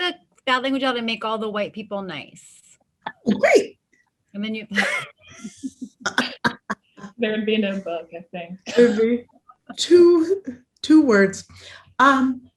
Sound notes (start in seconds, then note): 4.7 laughs; 9.0 laughter